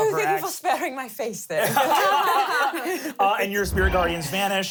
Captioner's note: everyone laughs